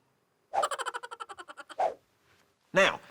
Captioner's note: minion laughing